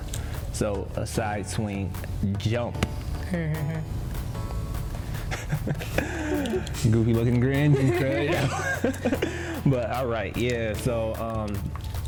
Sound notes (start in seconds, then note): 4.5 laughs; 7.5 both laugh